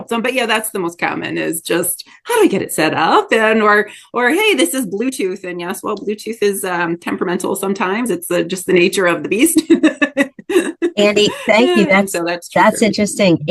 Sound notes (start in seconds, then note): 9.6 laughs